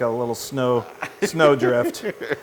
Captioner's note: laugh